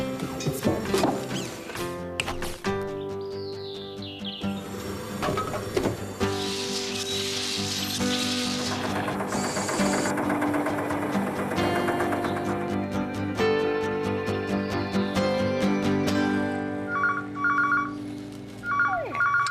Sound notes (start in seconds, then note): 7.0 cement Mixer Whirring; 9.1 engine Running; 16.9 phone Rings